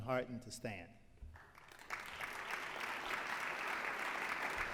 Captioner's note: applause